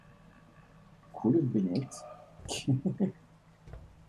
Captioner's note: chuckles